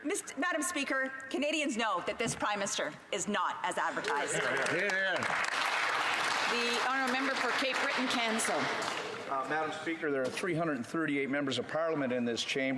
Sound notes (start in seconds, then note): 8.3 some Applause